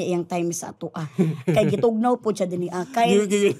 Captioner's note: chuckles